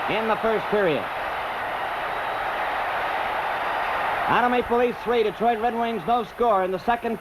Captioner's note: crowd cheers